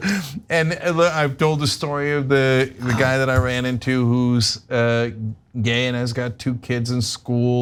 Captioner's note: laugh